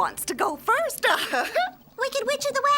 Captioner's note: giggling